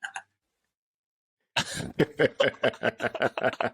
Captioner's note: laughter